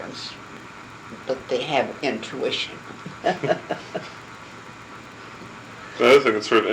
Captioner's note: laugh